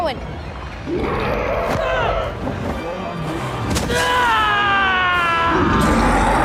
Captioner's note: Rowan yelling; creature growling